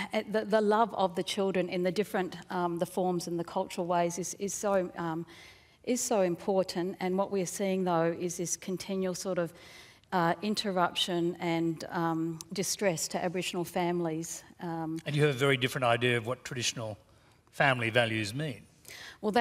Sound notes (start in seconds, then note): none